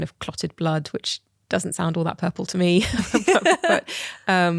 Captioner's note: laughs